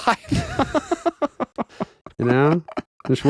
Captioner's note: laughing